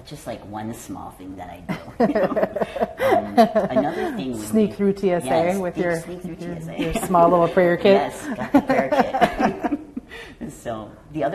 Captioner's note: laughter